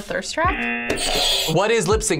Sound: buzzer rings; buzzer

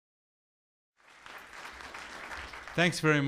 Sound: clapping

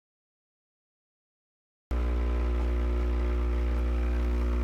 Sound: machine whirs and hums

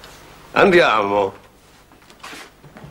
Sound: speaks Italian

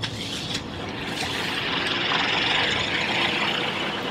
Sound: engine revving

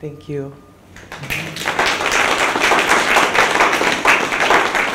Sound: audience applauds

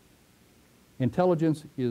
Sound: pause

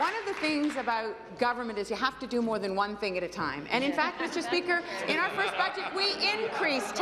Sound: applause

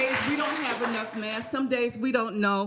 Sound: cheering and applause

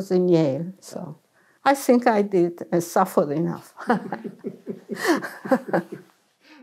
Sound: laughs

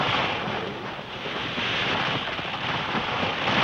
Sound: wood cracking

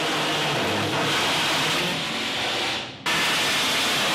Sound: sawing

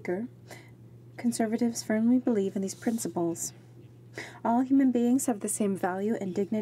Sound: speaking French

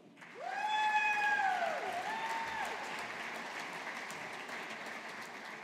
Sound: audience applauding

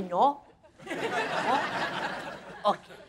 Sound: crowd laughing

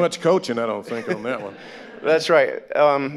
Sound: all laughing

